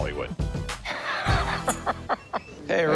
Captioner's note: laughs